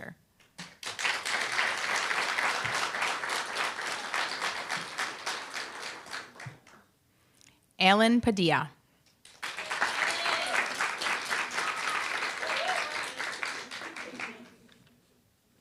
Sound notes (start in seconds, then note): 0.7 applause; 9.3 applause, cheer